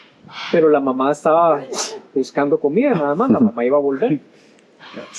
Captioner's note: in Spanish